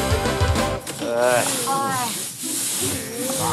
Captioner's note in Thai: ถอนหายใจ